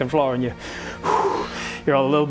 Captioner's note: catches breath